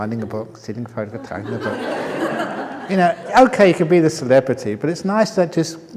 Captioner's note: laughter